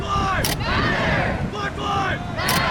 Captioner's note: crowd